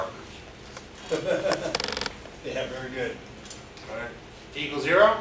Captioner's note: laughs